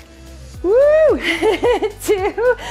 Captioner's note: laughing